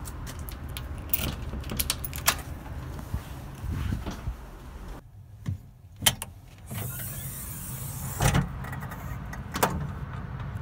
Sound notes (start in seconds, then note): 0.8 lock clicking; 6.7 door creaking